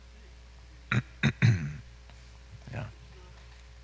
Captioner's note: clears throat